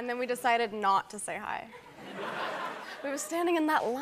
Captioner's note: laughter